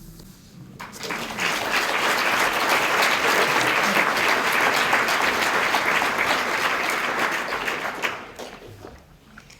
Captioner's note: applause